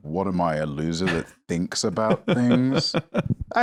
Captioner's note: laughs